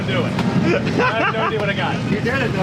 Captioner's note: laughs